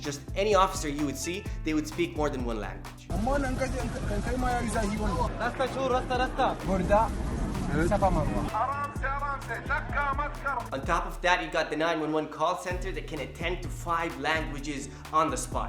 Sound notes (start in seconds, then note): 3.2 foreign language